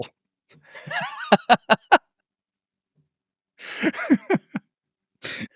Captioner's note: laughing